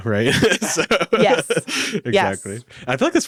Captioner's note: laughs